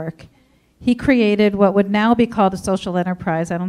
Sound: none

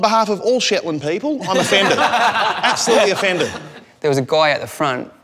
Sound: laughs

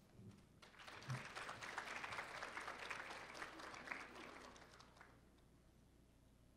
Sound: applause

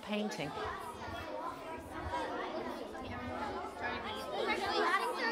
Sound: indistinct chatter

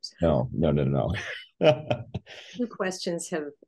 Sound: laughs

